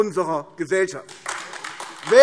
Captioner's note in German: Beifall AfD